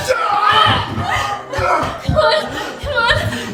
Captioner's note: Gerry's pained groans